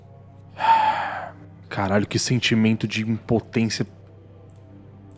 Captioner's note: sigh